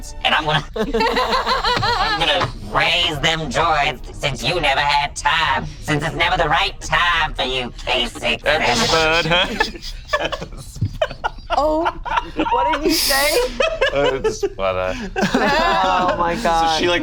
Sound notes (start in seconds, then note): 0.4 laughs; 10.2 group laughs